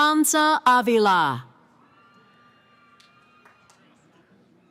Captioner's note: cheering